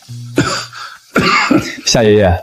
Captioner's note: cough cough